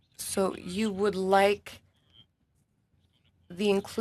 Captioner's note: speaking French